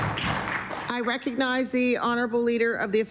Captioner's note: some Applause